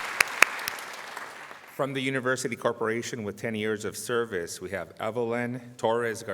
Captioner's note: applause